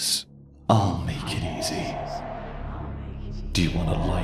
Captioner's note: echoing